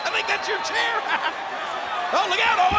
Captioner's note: Jerry laughs